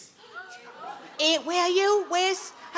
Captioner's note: audience members gasping